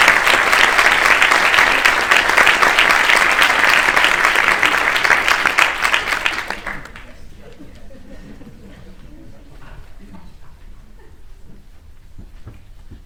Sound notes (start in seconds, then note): 7.4 laughing